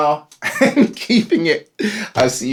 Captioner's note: laughing